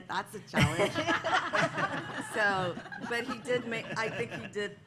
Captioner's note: laughter